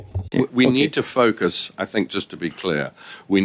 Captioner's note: speaking French